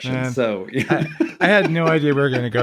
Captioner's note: laughing